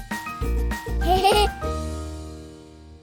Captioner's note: laughter